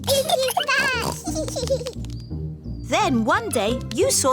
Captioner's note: both giggling